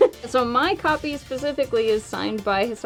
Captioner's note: laughs